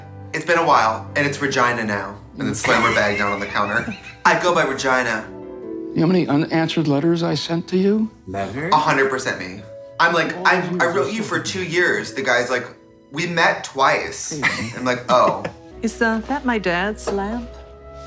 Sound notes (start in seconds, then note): 14.3 woman laughs